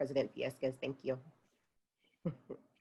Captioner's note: chuckles